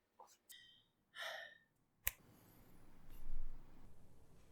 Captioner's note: sigh